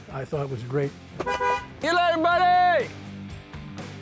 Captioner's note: honking